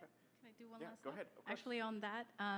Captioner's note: voiceover